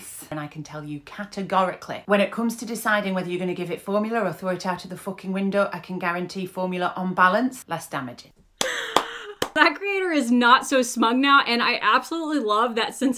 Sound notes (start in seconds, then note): 8.6 claps